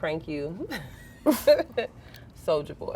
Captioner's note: girls laughing